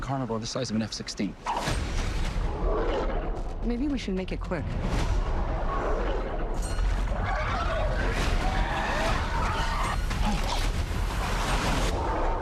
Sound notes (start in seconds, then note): 1.3 growling; 4.2 growling, squawking